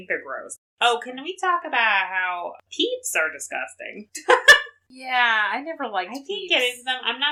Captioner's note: laughs